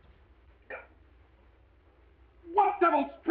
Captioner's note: Mr. Balding grunting